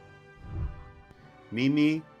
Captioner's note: whooshing